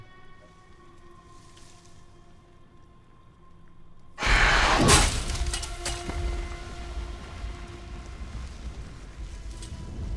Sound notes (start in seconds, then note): 4.2 creature roars